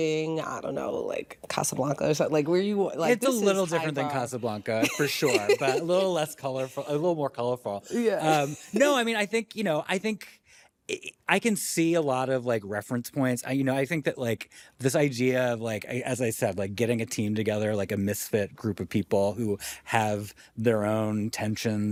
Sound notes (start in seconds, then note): 4.7 laughs